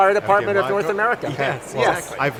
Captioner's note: laughs; speaks faintly